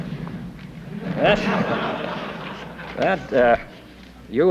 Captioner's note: laughter